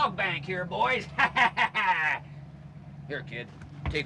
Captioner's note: laughing